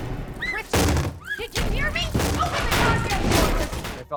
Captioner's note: Vecna banging on door